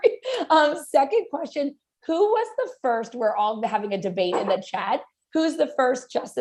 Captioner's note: laughter